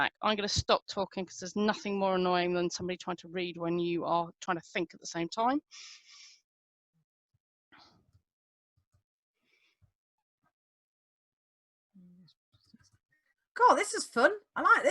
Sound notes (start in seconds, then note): 7.2 pause